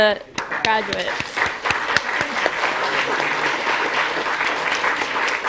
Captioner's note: applause